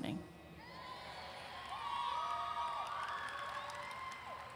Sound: audience cheering

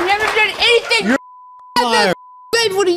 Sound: beep

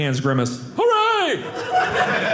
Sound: audience laughing

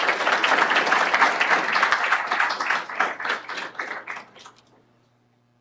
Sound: applause

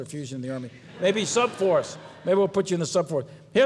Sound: audience laughs

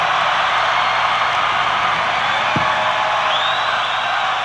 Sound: crowd cheering

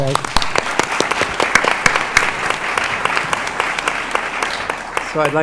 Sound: applause

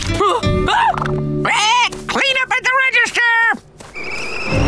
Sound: groaning; squawking

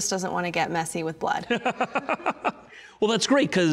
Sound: laughing

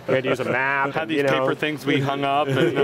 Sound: laughter

